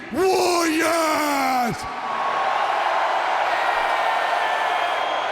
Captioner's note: audience cheering